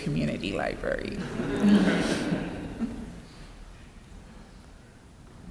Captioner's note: laughter